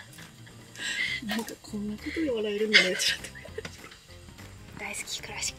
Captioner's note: laughs